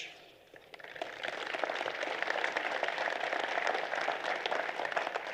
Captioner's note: applause